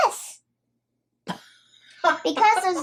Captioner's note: nana laughing